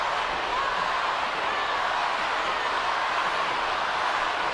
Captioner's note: audience cheering